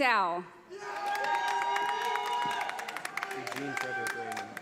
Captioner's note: audience applauding